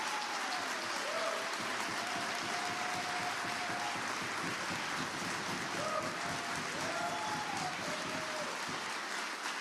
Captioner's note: applause